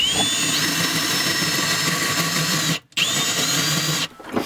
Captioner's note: drilling noise